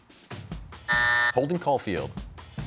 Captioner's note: buzzer sounds